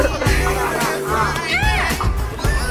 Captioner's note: fake scream